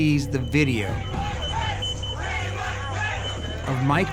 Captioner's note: crowd chanting